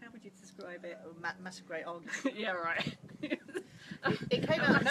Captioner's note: laughs